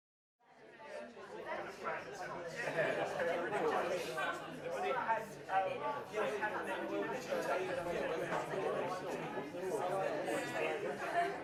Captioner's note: audience chattering